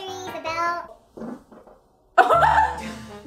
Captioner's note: farting; laughing